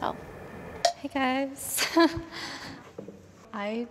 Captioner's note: laughs